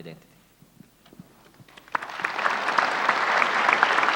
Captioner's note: applauding crowd